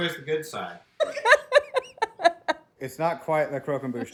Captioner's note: laughing